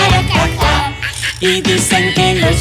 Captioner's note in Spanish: Sonido de mono